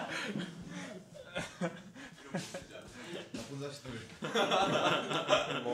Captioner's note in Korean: 웃음